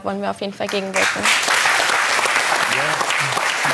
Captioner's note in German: Applaus